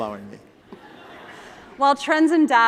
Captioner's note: laughter